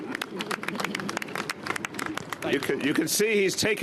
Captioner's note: applause